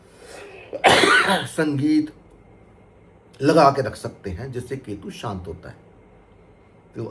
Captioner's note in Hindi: खांसने की आवाज़